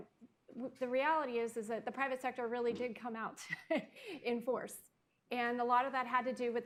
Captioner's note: laughs